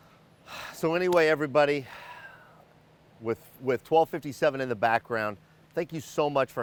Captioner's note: sighs